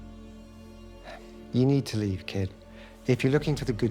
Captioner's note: sighs